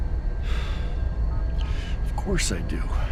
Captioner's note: sigh